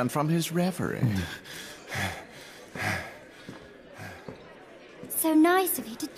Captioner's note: panicked breathing